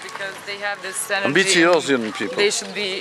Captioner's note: speaks in foreign language